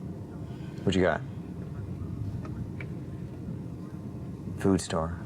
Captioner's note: on phone